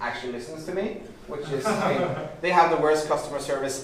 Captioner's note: laughing